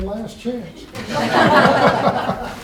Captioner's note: laughter